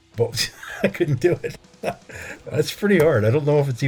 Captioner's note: laughter